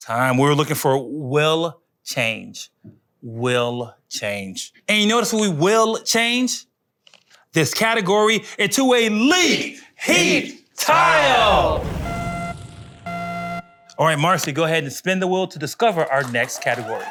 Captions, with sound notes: Time, we were looking for will change. Will change. And you notice when we will change? This category into a Leet Heat Tile. (beeping) All right, Marcy, go ahead and spin the wheel to discover our next category.